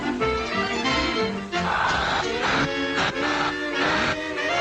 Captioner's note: Salomi gasping